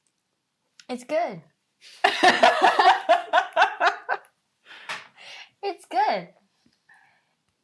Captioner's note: laughing